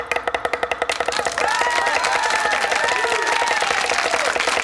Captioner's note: crowd cheering